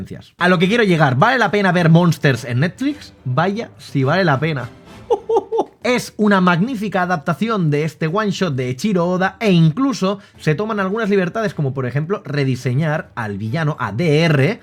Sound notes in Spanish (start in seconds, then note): 5.0 risa